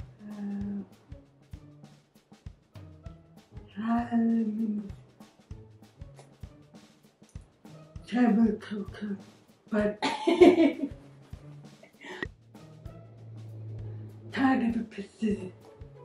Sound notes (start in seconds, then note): 10.0 giggles